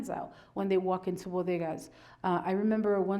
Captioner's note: speaks foreign language